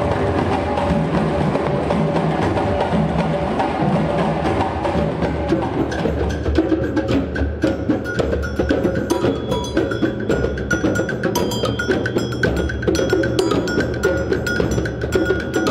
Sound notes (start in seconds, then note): 6.3 rhythmic drumming; 7.7 cowbells ringing